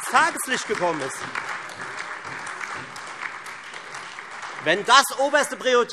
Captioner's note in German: Beifall Freie Demokraten, SPD, AfD und DIE LINKE